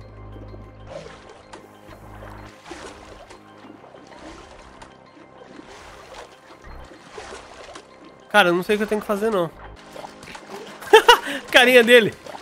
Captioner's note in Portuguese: risos